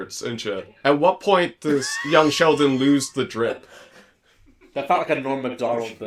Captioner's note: wheeze